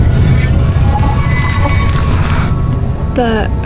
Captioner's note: drill whirring